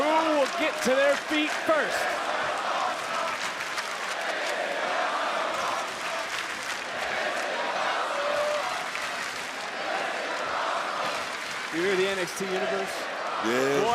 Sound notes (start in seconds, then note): 2.8 crowd chants "this is awesome"